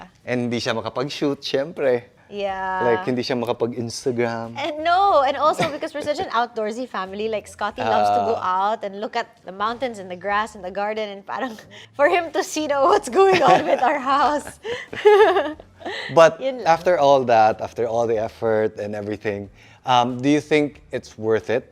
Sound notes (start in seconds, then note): 14.2 laughs